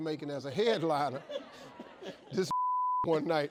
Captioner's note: man laughing